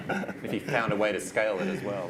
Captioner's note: laughs